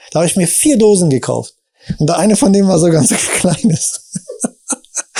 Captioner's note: chuckles